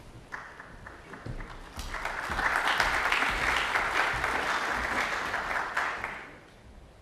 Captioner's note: applause